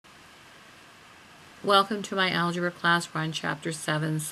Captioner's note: voiceover